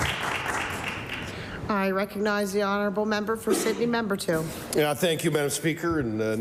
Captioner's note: applause